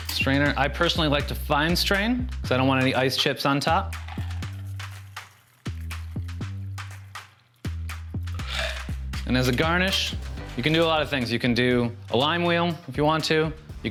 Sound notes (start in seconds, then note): 6.1 liquid pouring